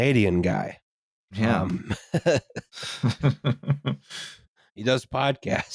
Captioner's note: chuckles